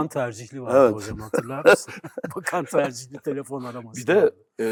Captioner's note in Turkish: kahkaha